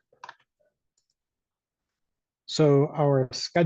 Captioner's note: mouse clicks